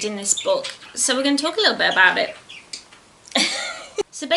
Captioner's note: giggles